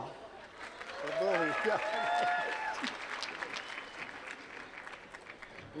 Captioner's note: applause